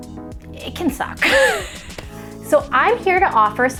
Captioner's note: laughs